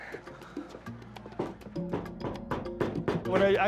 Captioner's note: knocks at door